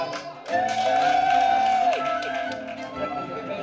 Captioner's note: cheers and applause